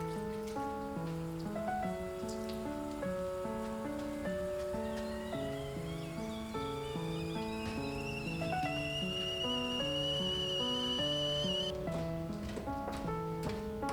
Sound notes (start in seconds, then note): 6.7 kettle whistles gently